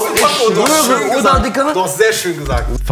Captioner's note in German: Stimmengewirr